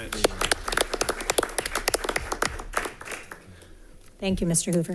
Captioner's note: all applauding